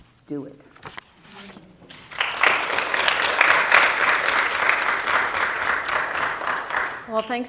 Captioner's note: applause